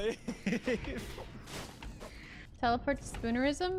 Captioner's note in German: lachen